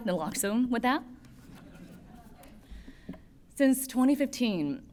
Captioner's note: laughter